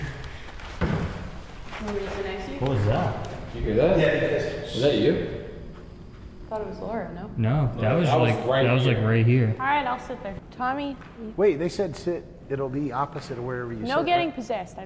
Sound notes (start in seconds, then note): 0.8 thud